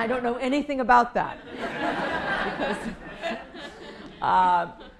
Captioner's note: laughter